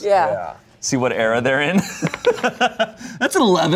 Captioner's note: laughs